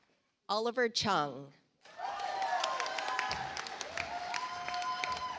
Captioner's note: audience applauds